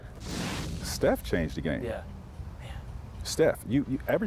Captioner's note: swish sound